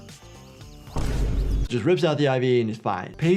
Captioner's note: sound effect booming